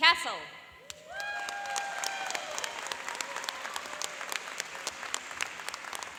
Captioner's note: cheering and applauding